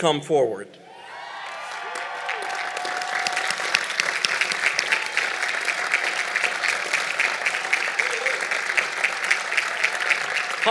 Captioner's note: applause